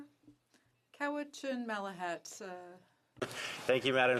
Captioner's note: speaking French